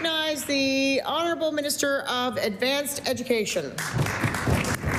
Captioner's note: applause